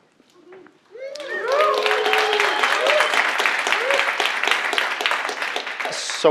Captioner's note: audience applauding